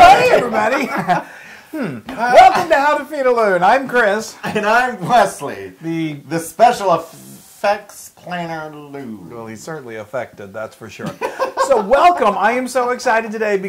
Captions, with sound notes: [LAUGH] >> Hi everybody. [LAUGH] Welcome to How to Feed a Loon. I'm Chris. >> And I'm Wesley. >> The- >> The special effects planner, loo. >> No, they're certainly affected, that's for sure. >> [LAUGH] >> So welcome, I am so excited today